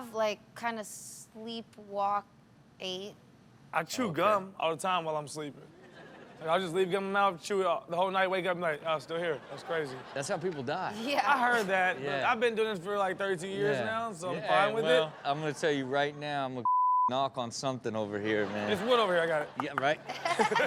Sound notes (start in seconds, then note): 16.6 beep